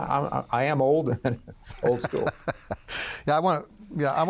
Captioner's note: laughing